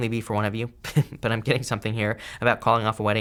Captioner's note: chuckles